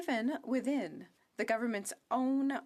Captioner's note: speaking French